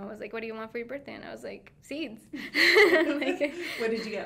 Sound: laughing

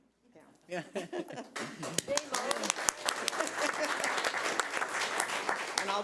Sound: audience applauding

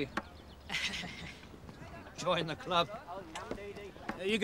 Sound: laughs

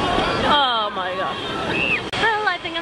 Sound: screams

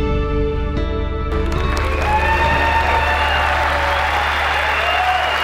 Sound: cheering

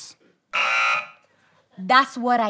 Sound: buzzer

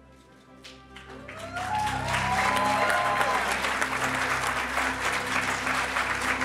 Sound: audience applauding; audience cheering

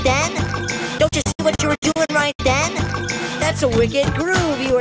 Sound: stuttering

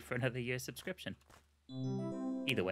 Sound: doorbell

